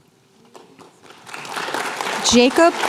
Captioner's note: applause